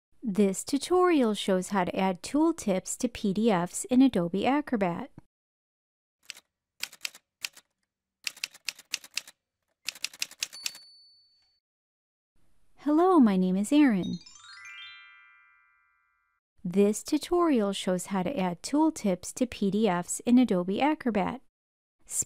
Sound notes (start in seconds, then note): 6.2 typewriter sounds; 14.0 chime sound